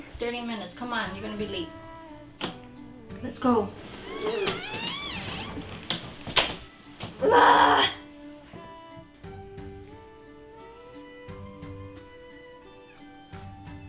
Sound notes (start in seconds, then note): 4.0 growls; 7.2 screams